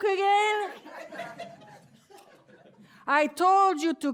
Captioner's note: laughter